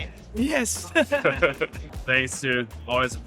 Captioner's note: laughter